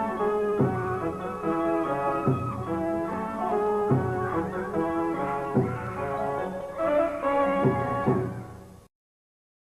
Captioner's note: The Shogun's wife screams